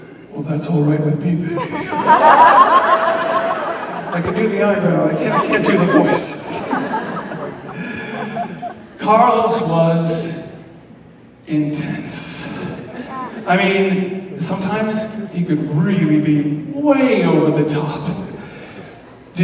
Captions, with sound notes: "Well that's all right with me, baby!" (Crowd laughs) I can do the eyebrow, I can't do the voice. Carlos was intense, I mean, sometimes he could really be way over the top.